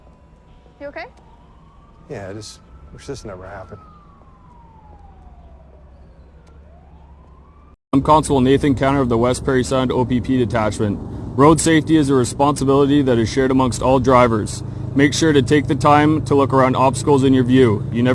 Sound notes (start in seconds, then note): 4.5 car hooting